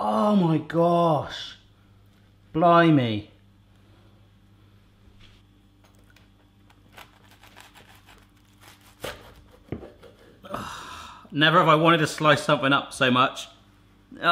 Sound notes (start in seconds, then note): 6.6 crunching